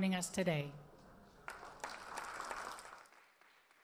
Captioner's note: audience applause